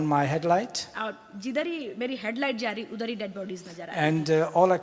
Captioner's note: speaks foreign language